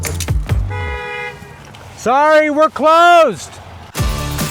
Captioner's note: horn honking; upbeat rock music continuing